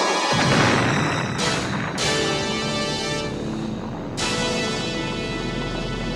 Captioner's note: dramatic music; explosion booming